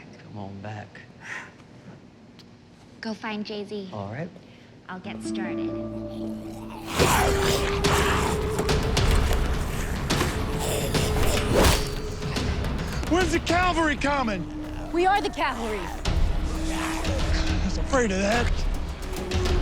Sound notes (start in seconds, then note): 6.2 zombies growling; 8.5 invigorating music